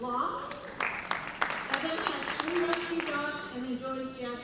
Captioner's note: applause